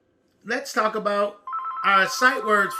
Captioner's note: phone beeping